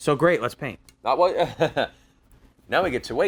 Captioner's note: laughs